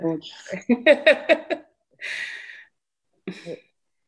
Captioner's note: laughs